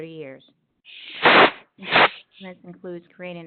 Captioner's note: sliding static